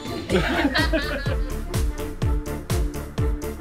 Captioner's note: laughing; upbeat music